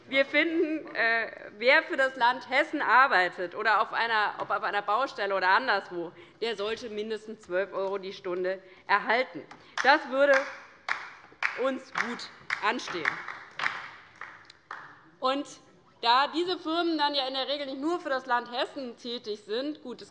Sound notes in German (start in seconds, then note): 11.7 Beifall bei der LINKEN